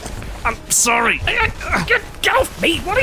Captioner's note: grunting